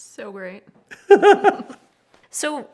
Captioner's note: laughs